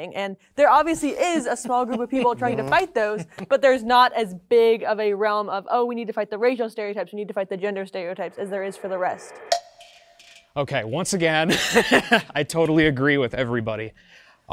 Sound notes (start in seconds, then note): 9.5 clicking instrumental music; 11.5 chuckling